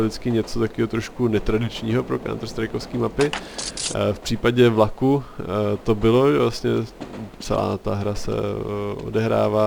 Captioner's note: train